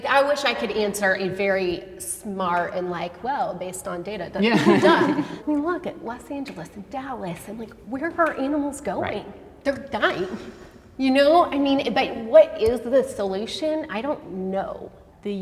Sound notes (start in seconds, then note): 4.4 group laughing